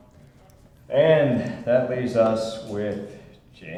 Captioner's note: none